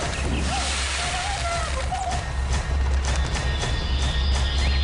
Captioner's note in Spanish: Sollozos